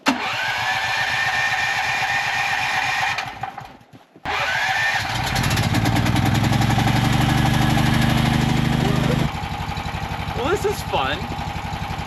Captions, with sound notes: (generator ignites) (generator rumbles) Well, this is fun.